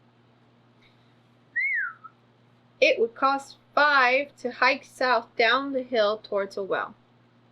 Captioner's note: whistles